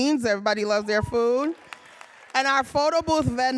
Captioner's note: audience applauding